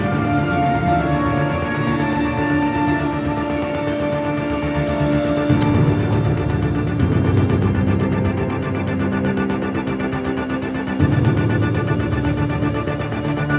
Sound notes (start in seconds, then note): 5.9 can pops